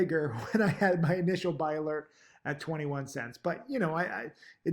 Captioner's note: laughs